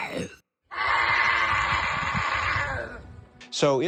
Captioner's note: voice actor growling; growling